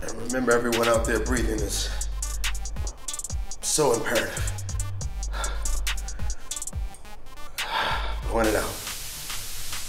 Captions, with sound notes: And remember everyone out there, breathing is so imperative. (exhales) Blowing it out.